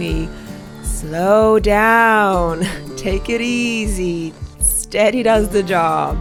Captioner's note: laughs